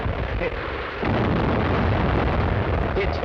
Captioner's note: cannons firing